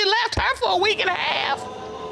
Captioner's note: audience exclaims